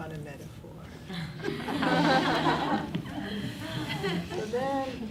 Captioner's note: class laughs